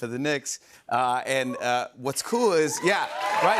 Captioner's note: cheers and applause